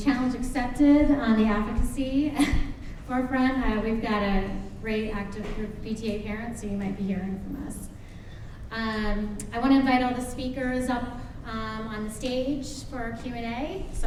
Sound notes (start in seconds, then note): 2.5 laughs